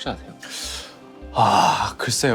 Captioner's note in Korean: 한숨